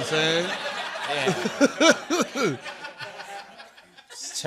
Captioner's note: laughter